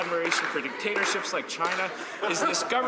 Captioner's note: laughter